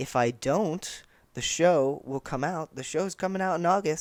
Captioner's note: none